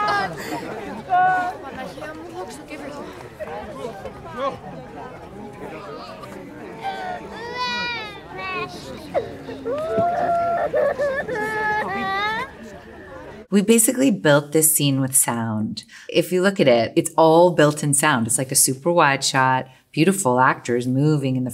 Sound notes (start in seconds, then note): 0.2 indistinct chatter; 7.9 Elena crying